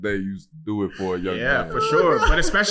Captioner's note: laughing